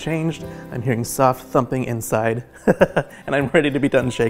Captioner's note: laughing